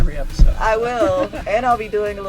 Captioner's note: laughs